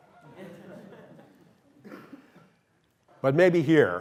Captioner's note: laughter